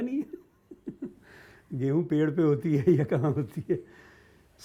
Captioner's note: laughs